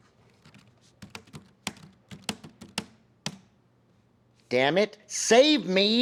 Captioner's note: keyboard clicking